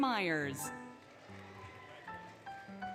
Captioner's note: applause, Cheering, Music